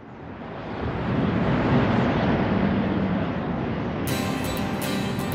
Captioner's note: winter wind sounds